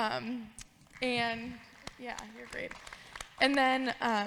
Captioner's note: audience claps